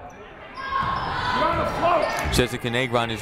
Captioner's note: people shouting in the crowd